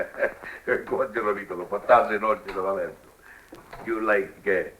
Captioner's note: chuckles; spanish